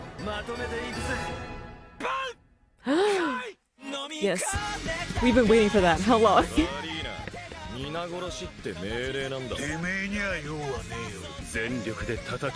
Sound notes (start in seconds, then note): 0.2 speaking in foreign language; 2.8 gasps; 7.4 speaking in foreign language